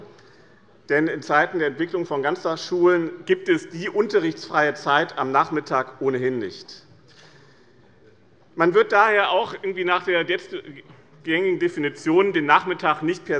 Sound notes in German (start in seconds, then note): none